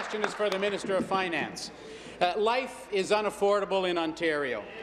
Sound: applause

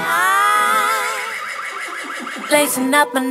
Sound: horse neighs

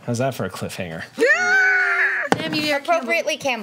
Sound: players scream and gasp

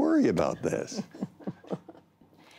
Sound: laughter

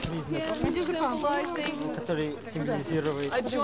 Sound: non-english speech

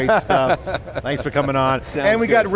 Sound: laughing

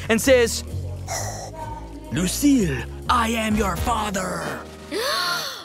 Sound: heavy breathing

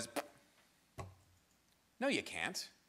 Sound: makes spitting noise

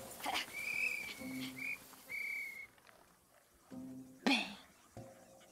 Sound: blowing whistle

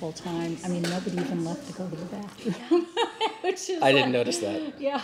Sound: laughing

